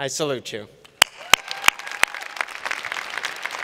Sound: applause

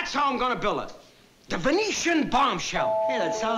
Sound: doorbell

